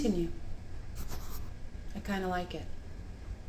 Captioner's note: hand rustles